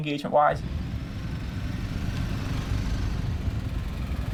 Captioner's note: motorcycle engines